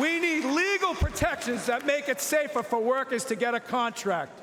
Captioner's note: cheering and Applause